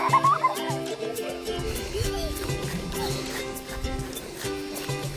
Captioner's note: children laughing excitedly